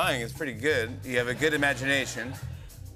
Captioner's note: laughter